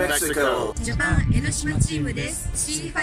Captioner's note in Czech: MLUVÍ JAPONSKY o CE5